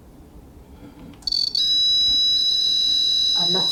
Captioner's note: REM pod beeping